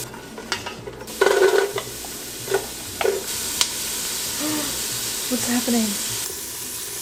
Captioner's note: gasp